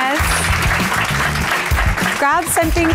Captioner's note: audience applauding